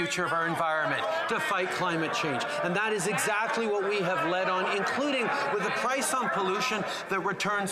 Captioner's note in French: voix de l'interprète